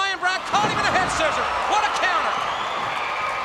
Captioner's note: crowd cheering; body thudding